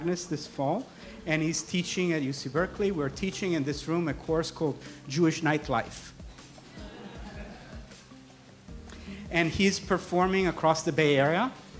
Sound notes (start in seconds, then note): 6.7 laughter